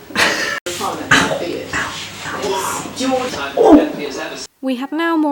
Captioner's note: series of grunts and groans